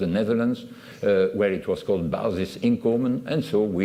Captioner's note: non-english